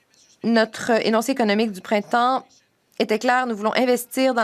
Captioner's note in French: voix de l'interprète